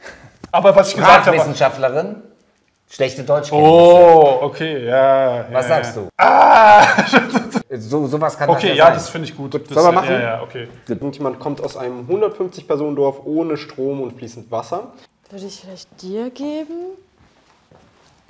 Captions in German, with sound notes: Sprachwissenschaftlerin, schlechte Deutschkenntnisse. Oh! Okay, ja. - Was sagst du? (lacht:) Ah! So was kann das nicht sein. - Das finde ich gut. Sollen wir machen? - Ja. Würde ich vielleicht dir geben?